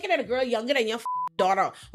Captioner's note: beep